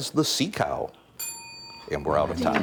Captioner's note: ding